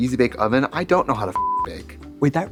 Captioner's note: beep